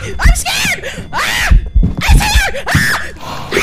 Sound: heavy ghost footsteps; more ear murder screaming; screams; screams

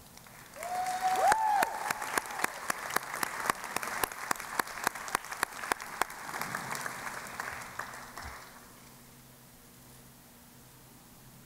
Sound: cheering and Applause

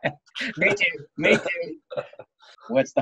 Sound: laughing

